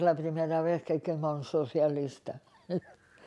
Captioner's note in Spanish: Ríe